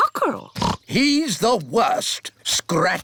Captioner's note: oinks